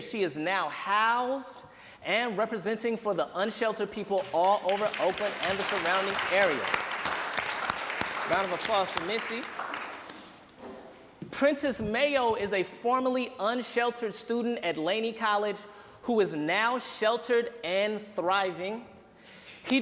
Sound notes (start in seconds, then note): 7.0 applause